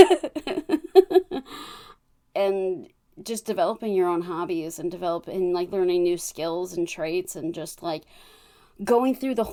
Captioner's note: laughs